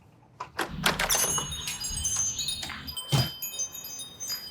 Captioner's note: wind chimes tinkling